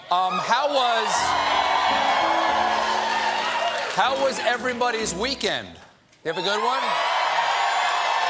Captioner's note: cheers and applause